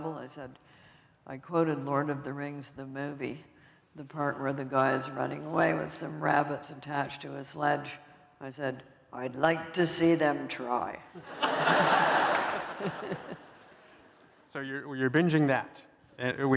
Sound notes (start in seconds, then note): 11.1 laughter